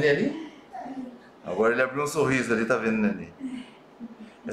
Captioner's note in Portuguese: risos